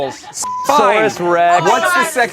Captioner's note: beep